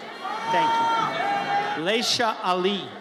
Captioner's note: audience cheers